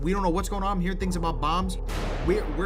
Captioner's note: gunshots